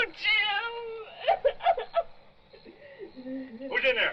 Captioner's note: Laura sobbing